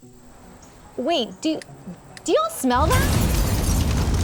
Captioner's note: explosion